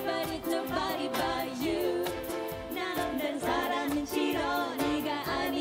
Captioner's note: korean